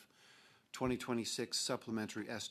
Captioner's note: speaking French